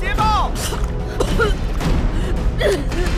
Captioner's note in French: tousse